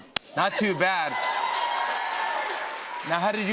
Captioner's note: cheers and applause